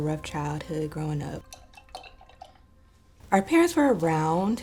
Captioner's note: brush clinking